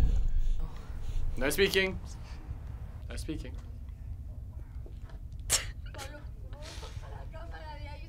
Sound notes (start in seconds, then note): 6.5 laughs